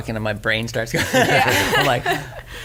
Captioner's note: everyone laughs